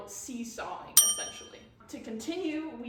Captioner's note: ding sound effect